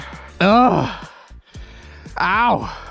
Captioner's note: groans